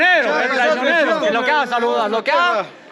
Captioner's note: crowd shouts